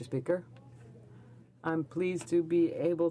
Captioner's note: speaking French